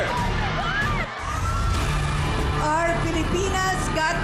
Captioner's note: audience squeals